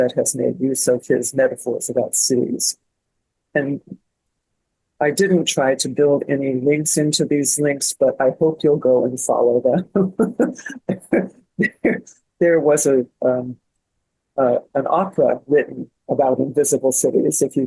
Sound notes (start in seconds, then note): 9.8 laughing